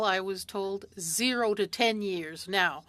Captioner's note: speaking French